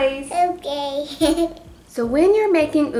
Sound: giggle

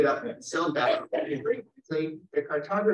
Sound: chuckling

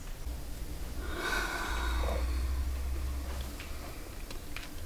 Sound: Freddie sighs; rustling

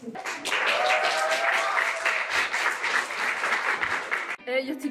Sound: applause

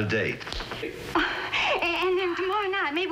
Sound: chuckling

